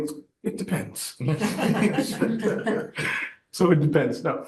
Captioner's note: audience laughing